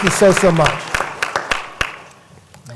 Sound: applause

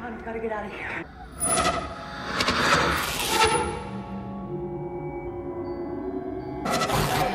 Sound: suspenseful music; intermittent whooshing

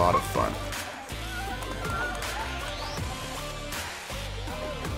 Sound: people shouting

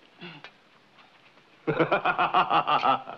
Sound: laughing

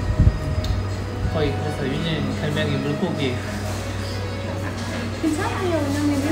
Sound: laughs

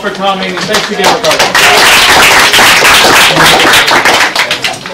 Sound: applause

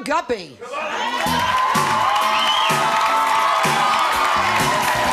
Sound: audience cheering

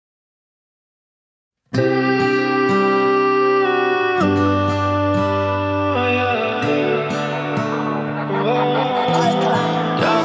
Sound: vocalizing

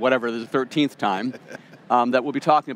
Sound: laughing

